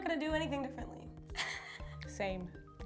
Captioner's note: laughs